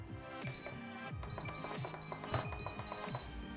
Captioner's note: pot beeping